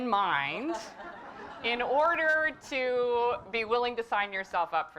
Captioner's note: laugh